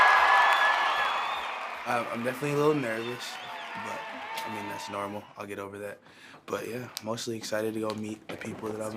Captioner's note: cheers & Applause